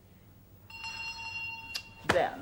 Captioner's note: the door bell rings